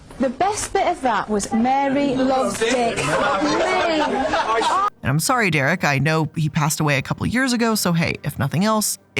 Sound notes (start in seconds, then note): 3.0 all laughing